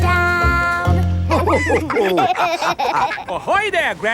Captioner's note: all laughing